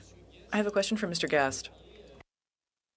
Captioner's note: speaking French